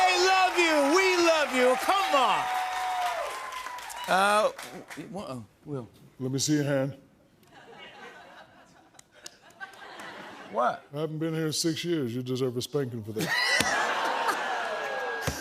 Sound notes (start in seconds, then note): 7.5 scattered laughter; 13.2 laughter